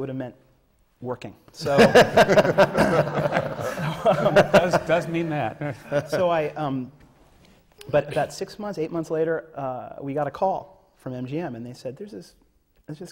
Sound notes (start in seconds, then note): 1.6 laughter